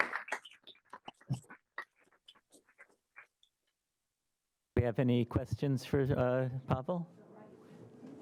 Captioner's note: applause